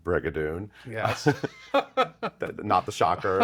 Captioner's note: laughs